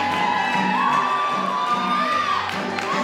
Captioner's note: applause